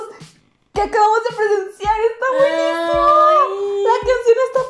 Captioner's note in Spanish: AAaaaayyyyyy!!!